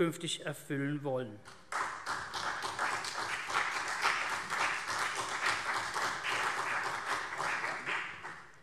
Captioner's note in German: Beifall CDU und BÜNDNIS 90/DIE GRÜNEN